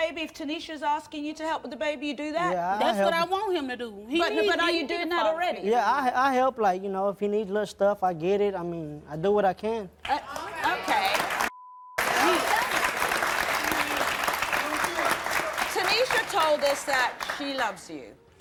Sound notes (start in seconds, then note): 12.0 applause